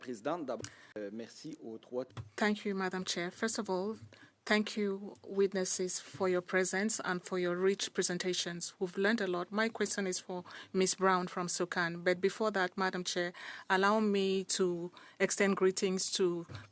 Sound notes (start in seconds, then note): 3.5 speaking French